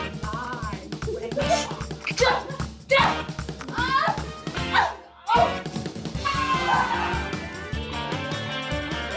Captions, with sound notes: You lie, wench. [smack, smack] Ah! Oh! Aaaaaah!